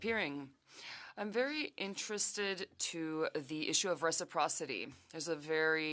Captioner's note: speaking French